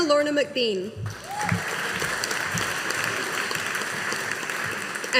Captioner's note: audience applauding